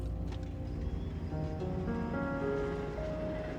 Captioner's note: train passing